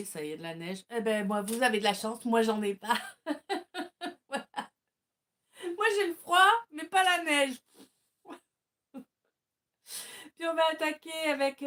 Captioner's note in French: rires